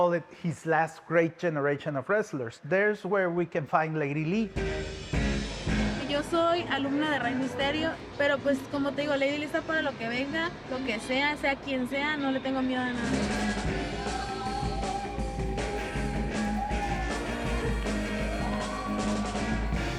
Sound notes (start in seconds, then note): 6.0 speaking Spanish